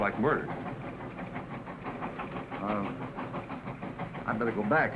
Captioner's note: train chugging